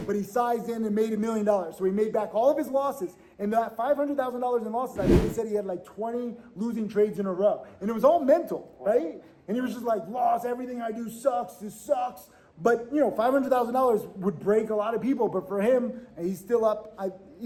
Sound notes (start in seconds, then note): none